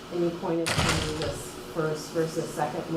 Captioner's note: door slams